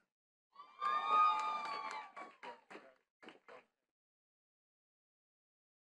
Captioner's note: attendees cheering and clapping